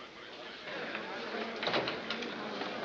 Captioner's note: murmuring continues